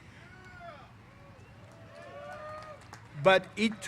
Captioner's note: cheers